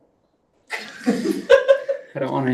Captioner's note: laughing